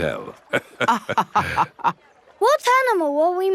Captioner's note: both laughing